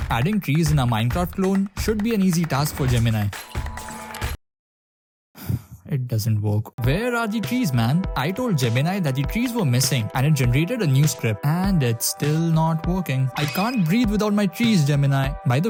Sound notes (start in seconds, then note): 5.4 gasp